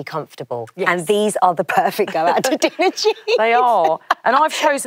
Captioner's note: laughs